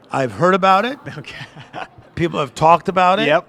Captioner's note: laughs